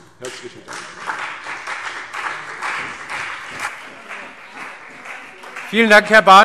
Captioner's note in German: Beifall CDU und BÜNDNIS 90/DIE GRÜNEN